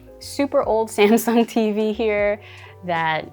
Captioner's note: chuckling